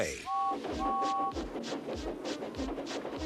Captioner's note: whistles